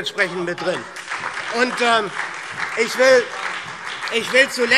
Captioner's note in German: Beifall SPD und Freie Demokraten